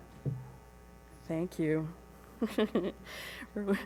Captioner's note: chuckles